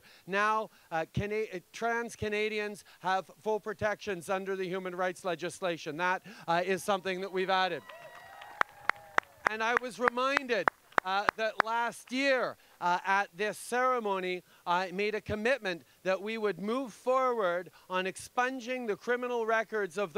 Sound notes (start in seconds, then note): 7.7 cheers and applause